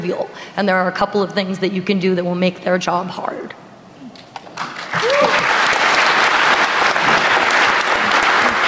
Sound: applause

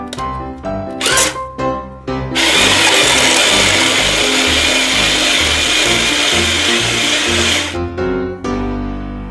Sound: ice shaving sound

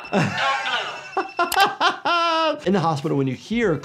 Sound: laughing

